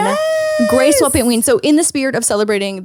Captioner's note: gasps